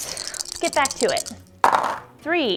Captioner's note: dice clunking